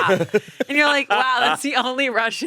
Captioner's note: both laughing